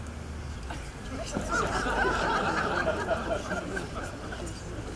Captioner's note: audience laughing